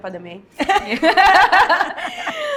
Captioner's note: laughs